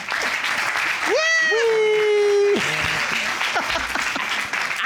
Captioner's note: audience applauding; laughs